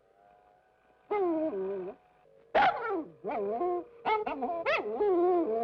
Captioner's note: dog whimpering and barking